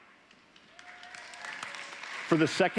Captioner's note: applause